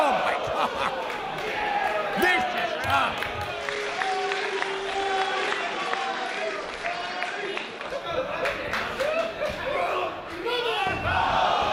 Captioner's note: applause